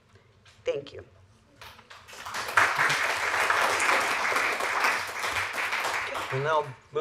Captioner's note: applause